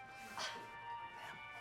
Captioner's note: woman scoffs